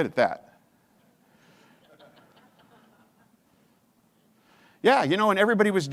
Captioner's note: audience chuckles